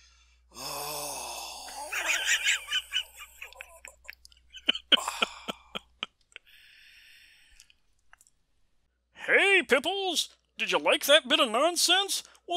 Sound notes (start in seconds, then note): 0.1 Jim wheezes in laughter; 0.5 long protracted sigh of relief; 4.4 Jim laughs; 5.1 quietly